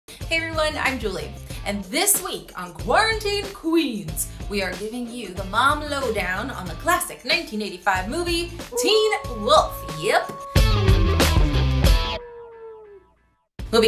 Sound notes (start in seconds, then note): 8.7 wolf howling; 10.4 rock music